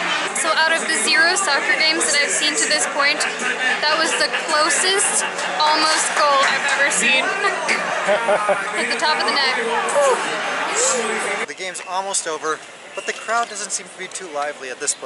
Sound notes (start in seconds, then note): 7.3 laughter